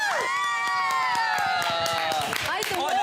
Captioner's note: cheering